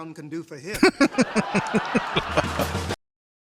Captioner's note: laughing